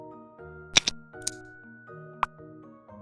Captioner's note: click sound